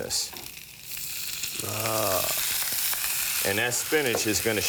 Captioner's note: sizzling